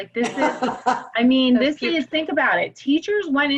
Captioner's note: laugh